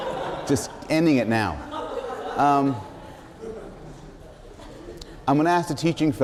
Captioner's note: laughter